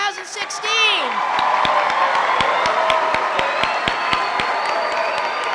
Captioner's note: loud cheering and applause